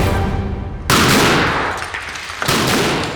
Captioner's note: bang